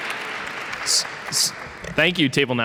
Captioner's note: applause